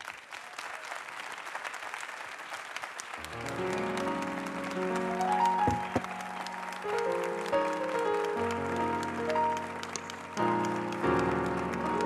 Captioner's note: applause